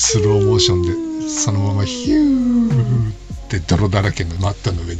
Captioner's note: laughs